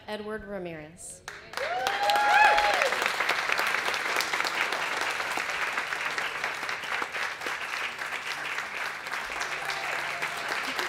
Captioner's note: applause and Cheering